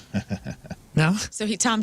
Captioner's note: laughing